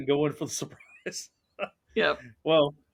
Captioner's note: chuckles